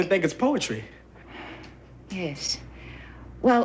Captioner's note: sighs